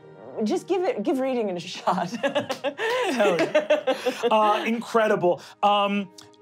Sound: laughing

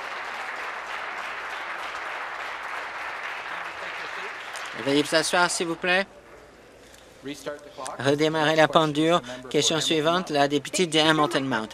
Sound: some Applause

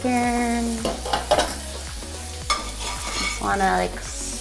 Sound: bacon sizzles

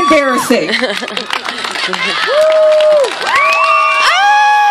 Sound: cheers from crowd

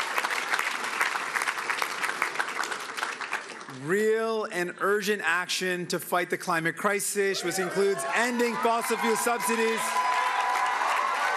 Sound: cheering and Applause

